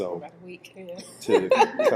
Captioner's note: laughs